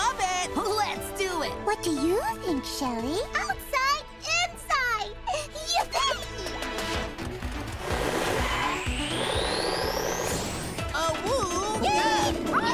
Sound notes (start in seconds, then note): 7.8 tires screeching; 9.1 upbeat music